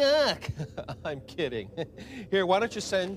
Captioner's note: laughs